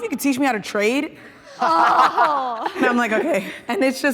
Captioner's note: everyone laughing